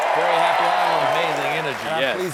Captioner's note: applause